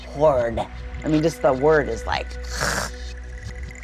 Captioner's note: gags